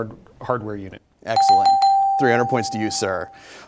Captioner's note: dings